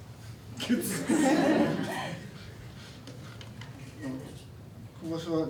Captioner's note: laughs